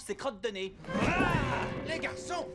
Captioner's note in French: il crie